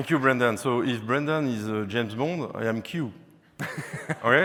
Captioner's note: laughing